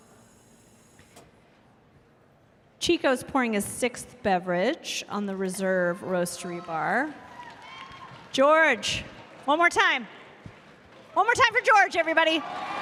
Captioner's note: cheers and applause